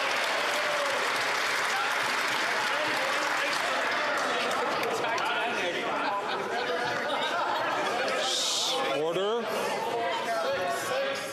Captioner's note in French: applaudissements